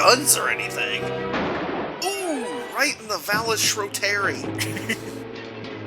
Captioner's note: gunshot